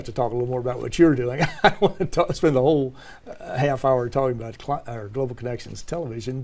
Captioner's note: laugh